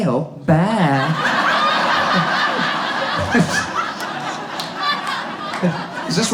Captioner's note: audience laughs